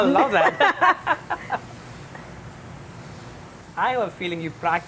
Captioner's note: laughs